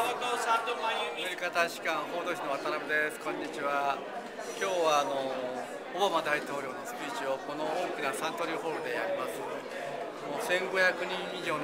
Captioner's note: speaking japanese